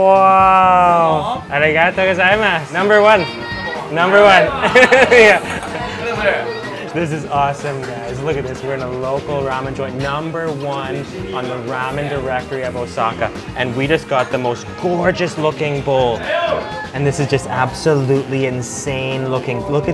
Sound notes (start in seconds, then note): 0.9 speaking in foreign language; 6.1 laughing